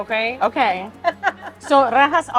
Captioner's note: chuckling